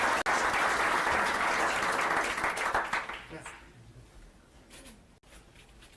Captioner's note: applause